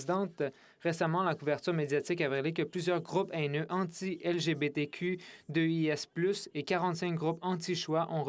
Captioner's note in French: voix de l'interprète